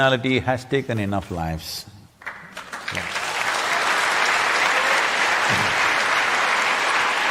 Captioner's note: applause